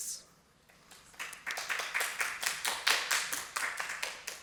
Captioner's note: applause